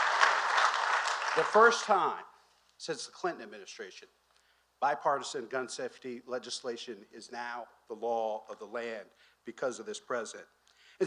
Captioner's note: applause